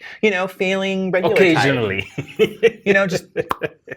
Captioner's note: laughs